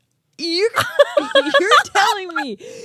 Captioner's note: both laughing